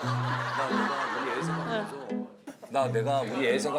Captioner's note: emotional Booing